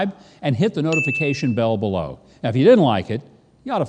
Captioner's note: bell dinging